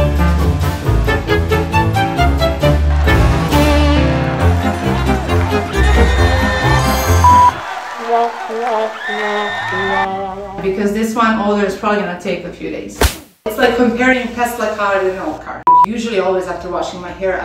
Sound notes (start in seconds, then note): 5.7 crowd cheering; 7.2 timer beeping